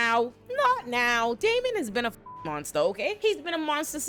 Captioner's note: beep